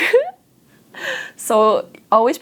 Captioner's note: laughs